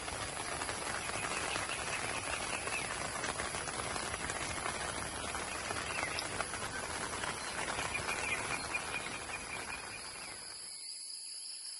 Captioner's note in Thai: ปรบมือ